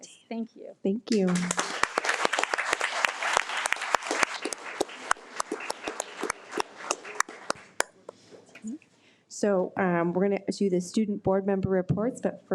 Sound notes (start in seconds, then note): 1.1 audience applauding